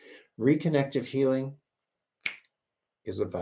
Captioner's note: clicks fingers